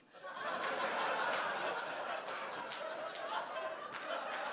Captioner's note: audience laughing